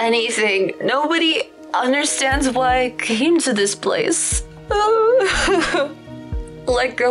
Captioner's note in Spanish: solloza